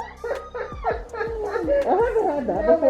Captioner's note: both laugh